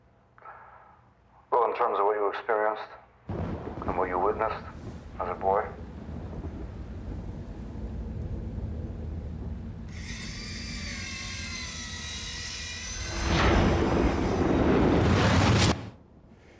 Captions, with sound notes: >>WELL, IN TERMS OF WHAT YOU EXPERIENCED AND WHAT YOU WITNESSED AS A BOY-- >>[saw churning] >>[thunder clapping]